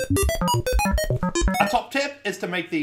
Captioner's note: robotic beeping